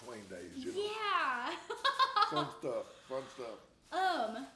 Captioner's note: laughs